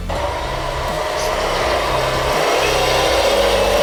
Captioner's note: truck rumbling